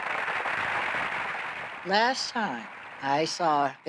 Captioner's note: applause